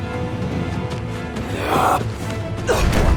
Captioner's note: grunting